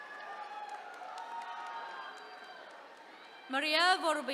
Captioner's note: attendees cheering